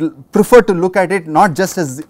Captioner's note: distortion